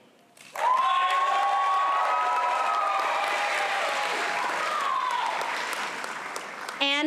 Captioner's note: applause